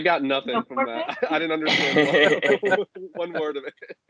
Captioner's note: laughter